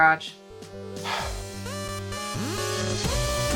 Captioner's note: sighing; upbeat music